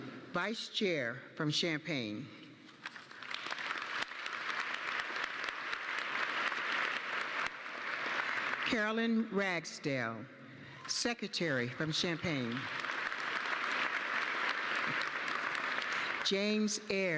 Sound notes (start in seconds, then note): 5.6 applause